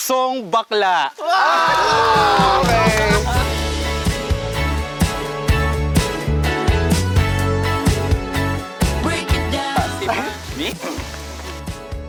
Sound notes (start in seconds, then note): 1.2 campers cheering; 3.0 upbeat music playing